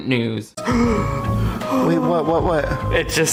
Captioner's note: gasps